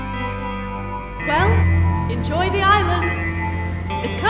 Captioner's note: voice-over